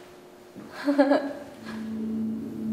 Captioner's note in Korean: 웃음